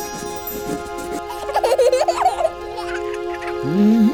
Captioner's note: child laughs